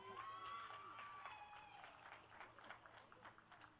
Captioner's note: applause; cheering; applause; applause and cheering